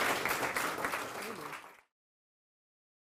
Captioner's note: applause